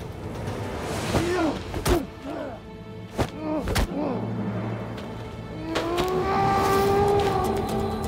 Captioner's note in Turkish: Dövüş sesleri